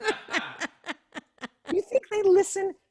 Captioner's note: laughter